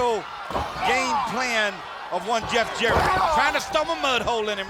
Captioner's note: blows thudding